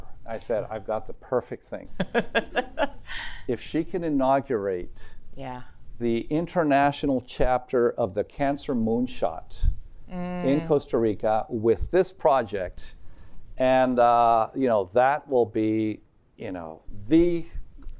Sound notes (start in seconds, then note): 2.0 laughs